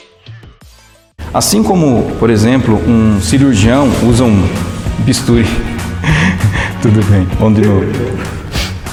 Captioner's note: laughs